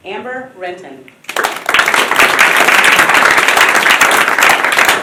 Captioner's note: applause